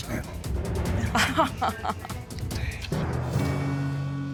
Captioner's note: chuckling